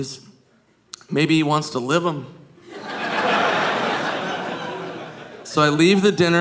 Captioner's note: audience laughing